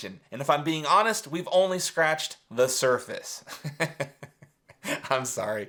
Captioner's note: laughs